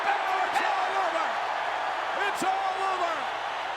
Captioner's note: crowd cheering